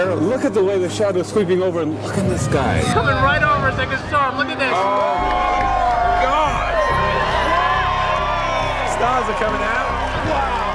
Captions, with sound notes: Look at the way the shadow is sweeping over Look at the sky It's coming right over it's like a storm, look at this! [APPLAUSE] The stars are coming out, wow!